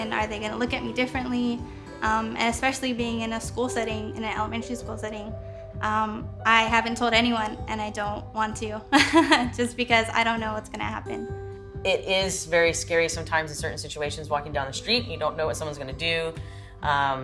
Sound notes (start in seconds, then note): 8.9 chuckles